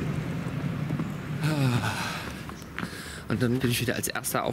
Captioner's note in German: Seufzen